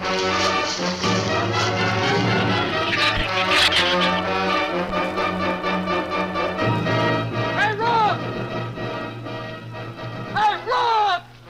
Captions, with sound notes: (leaves rustle) (shrews chatter) - Hey, Rook! Hey, Rook!